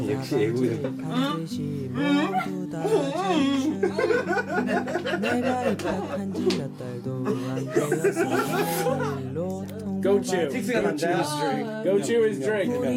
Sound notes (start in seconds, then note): 1.9 grunting noises; 6.0 laughs